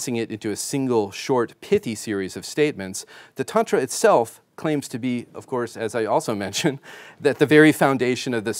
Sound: chuckling

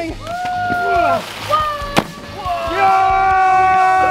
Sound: group cheers

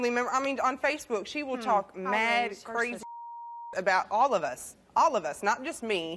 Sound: beep

